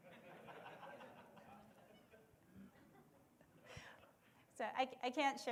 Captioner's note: laughter